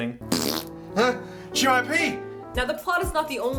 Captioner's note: fart